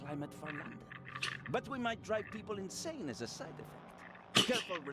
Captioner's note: scoffs; laughs